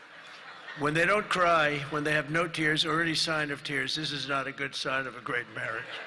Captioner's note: laughter